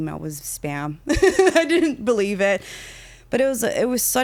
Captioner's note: laughing